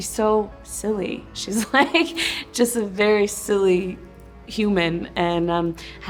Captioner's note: laughing